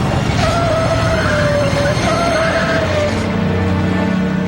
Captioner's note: tires squealing; engine revving; dramatic music